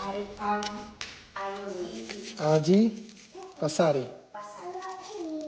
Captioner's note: speaking in foreign language